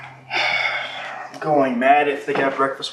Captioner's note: sighs